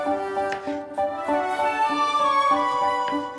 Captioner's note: knife scraping